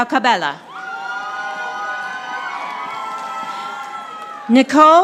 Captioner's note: audience applauding